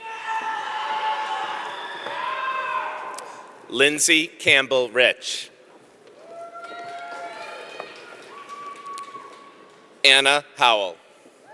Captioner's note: cheering